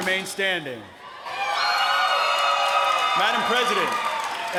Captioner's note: applause